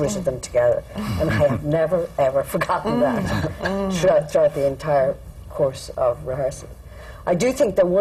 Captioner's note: laughter